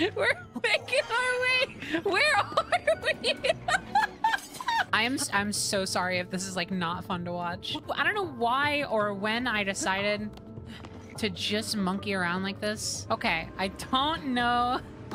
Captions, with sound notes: [Laughing] We’re making our way! Where are we!? [Laughter] I am- I am so sorry if this is, like, not fun to watch. I don't know why or when I decided... to just monkey around like this. Okay. I don’t know...